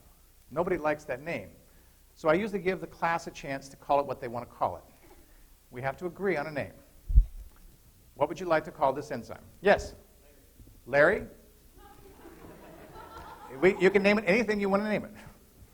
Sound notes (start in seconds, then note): 11.8 laughter